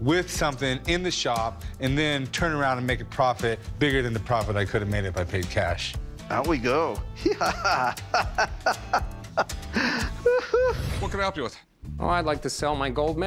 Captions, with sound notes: in the shop and then turn around and make a profit bigger than the profit I could have made if I paid cash. Out we go. [laughs] What can I help you with? Oh, I'd like to sell my gold medal.